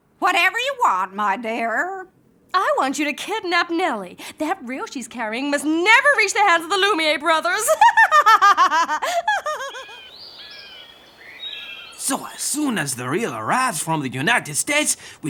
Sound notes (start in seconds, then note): 7.3 laughs; 10.2 seabirds calling